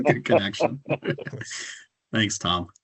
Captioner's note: council members laughing